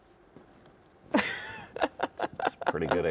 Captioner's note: laughs